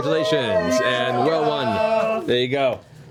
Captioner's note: cheering